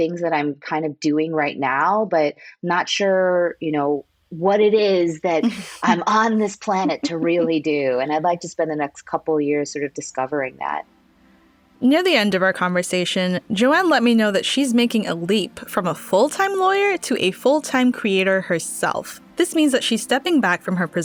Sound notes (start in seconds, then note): 5.4 laughs